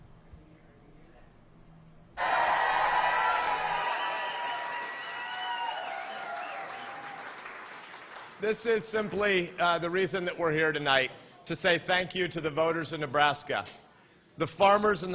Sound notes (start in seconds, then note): 8.5 applause